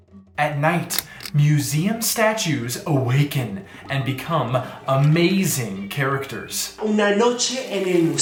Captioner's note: light clicks